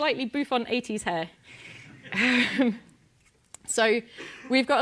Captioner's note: laugh